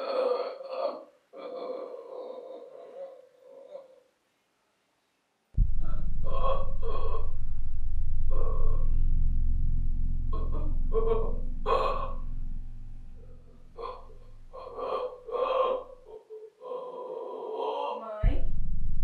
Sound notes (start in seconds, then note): 13.2 guttural noises